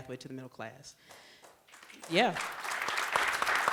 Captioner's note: applause